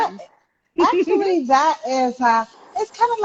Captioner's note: chuckling